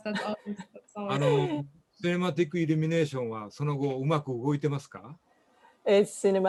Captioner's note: speaking japanese